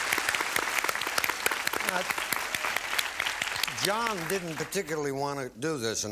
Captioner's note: applause